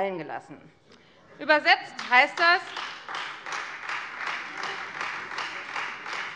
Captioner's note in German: Beifall Freie Demokraten